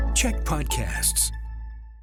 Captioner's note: announcer voice